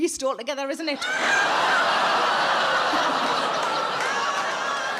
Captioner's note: audience laughing